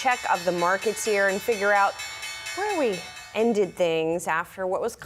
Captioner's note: bell